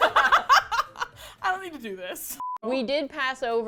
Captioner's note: laughter